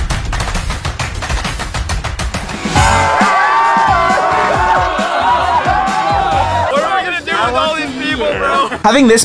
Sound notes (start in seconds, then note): 0.2 upbeat music; 2.5 crowed cheering